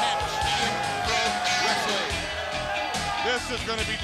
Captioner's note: crowd cheering